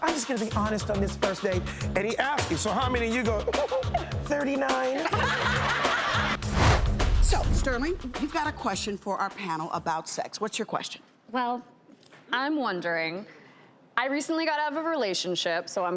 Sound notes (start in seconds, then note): 5.1 giggles; 5.1 laughing